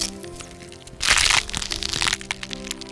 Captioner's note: another little crunch